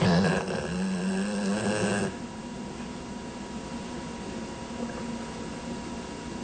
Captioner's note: loud snoring labrador